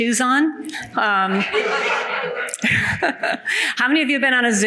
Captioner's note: audience laughs